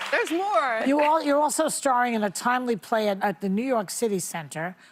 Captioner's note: applause